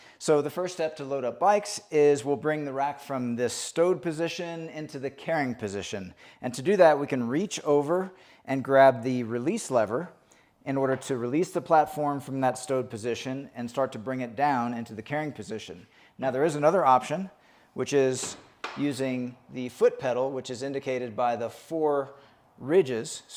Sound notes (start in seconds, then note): 18.2 pedal thumping